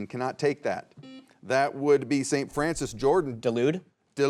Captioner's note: buzzer beeps